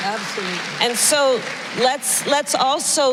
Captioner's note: applause